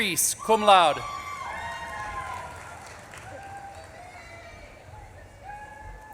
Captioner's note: audience claps and cheers